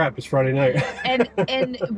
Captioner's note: laughing